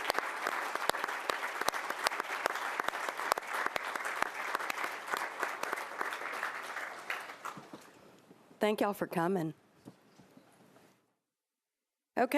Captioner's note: applause